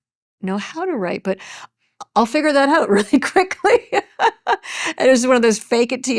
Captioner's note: chuckles